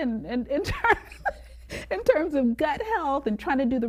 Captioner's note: laughs